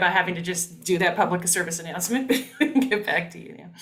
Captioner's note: laughing